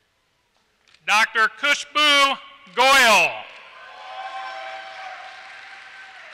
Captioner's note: applause